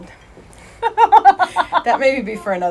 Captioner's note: laughing